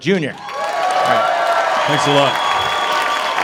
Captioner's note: applause, cheering